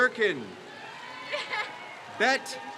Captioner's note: crowd cheers